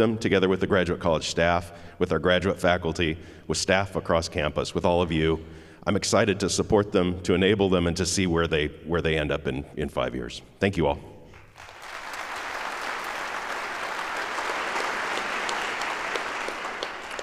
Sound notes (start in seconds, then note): 11.4 audience applauds